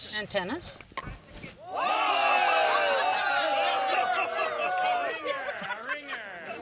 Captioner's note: crowd cheers; laughter